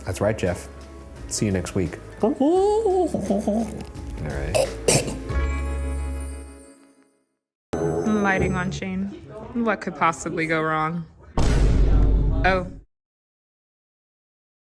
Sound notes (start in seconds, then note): 2.2 mumbles and chokes